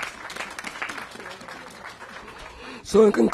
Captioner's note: applause